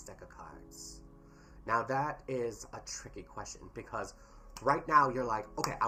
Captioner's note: snap